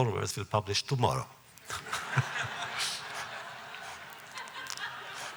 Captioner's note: laughter